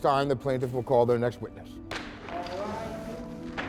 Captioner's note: gavel bangs